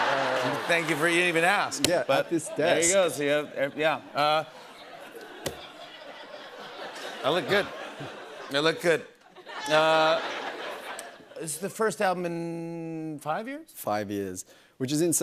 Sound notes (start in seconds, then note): 0.1 laughter; 4.6 laughter